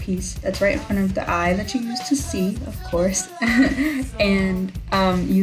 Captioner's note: laughs nervously